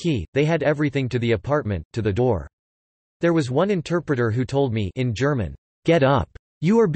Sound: in German

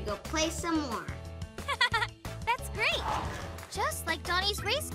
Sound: giggles

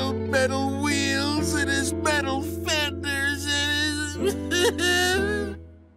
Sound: crying

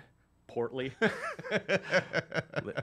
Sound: laughs

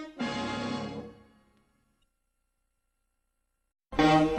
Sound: silence; assertive music resuming

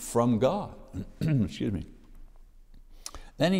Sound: clears throat

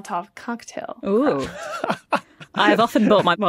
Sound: wheezes

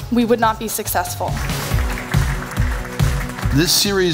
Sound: applause

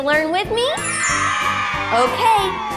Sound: cheers

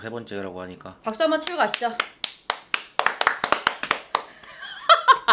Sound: clap

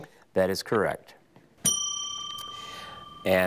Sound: bell dings

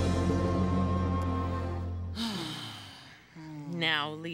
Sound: all sigh

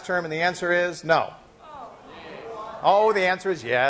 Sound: class griping

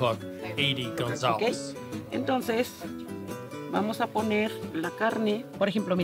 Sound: speaking Spanish

